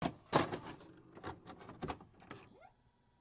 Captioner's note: VHS tape being inserted